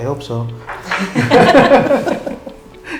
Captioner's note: laughs